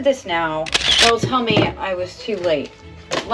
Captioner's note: camera shutter sound